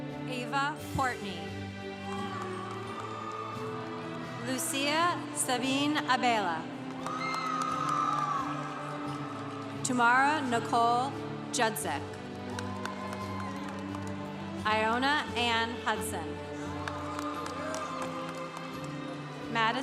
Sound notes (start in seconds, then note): 1.9 congregation cheering; 6.9 congregation cheering; 12.3 congregation cheering; 16.6 congregation cheering